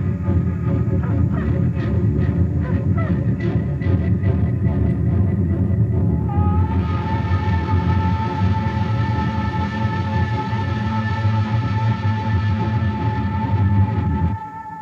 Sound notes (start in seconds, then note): 2.0 bird calling; 11.9 intense music